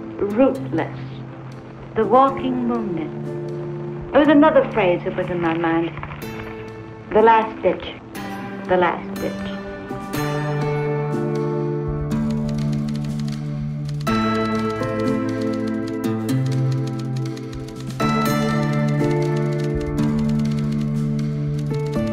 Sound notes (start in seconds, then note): 9.4 soft music; 12.2 typewriter clicking